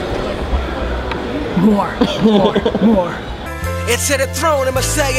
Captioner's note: laughs